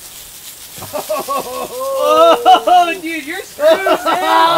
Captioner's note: laughter